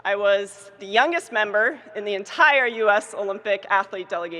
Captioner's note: none